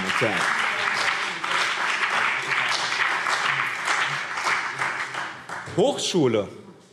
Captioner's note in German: Beifall BÜNDNIS 90/DIE GRÜNEN und CDU